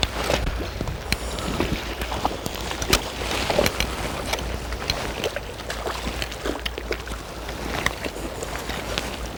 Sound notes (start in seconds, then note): 1.6 splashing on the surface